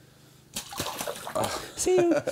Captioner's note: splashing